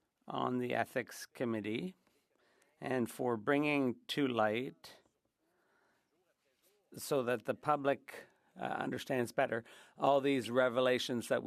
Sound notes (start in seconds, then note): 3.1 speaking French